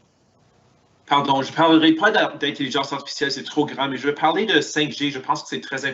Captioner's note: speaking in foreign language